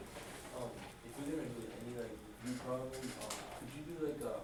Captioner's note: student talks faintly